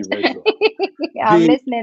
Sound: laughs

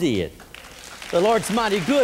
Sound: applause

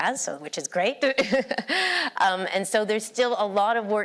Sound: laughter

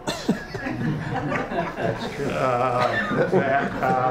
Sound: laughing

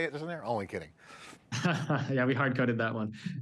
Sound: laughs

